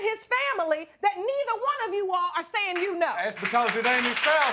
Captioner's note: audience clapping